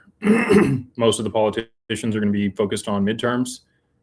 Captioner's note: clears throat and cough